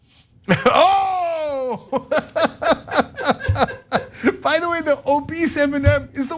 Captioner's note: laugh